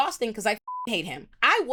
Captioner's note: beep